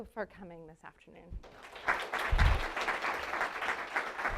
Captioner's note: applause